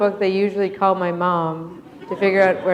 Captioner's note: laughter